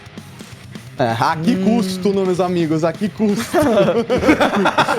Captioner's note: laugh; laughter